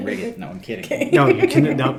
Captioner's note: chuckles